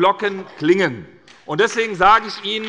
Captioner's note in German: Beifall bei der SPD